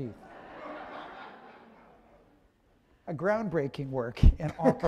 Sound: laughter

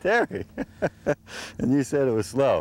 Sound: laughter

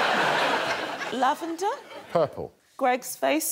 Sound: laughter

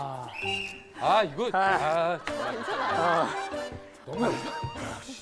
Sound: sighing

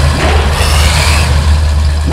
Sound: slam; engine revs

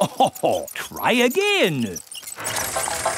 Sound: chuckles

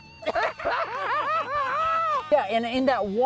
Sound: laughter

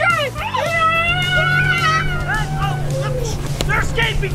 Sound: screaming

